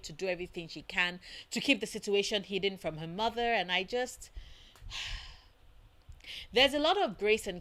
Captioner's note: sigh